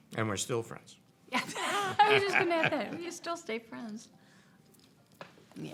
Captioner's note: laughter